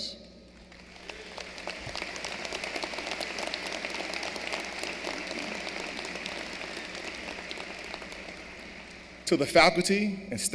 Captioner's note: applause